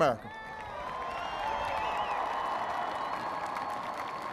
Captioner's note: cheers and applause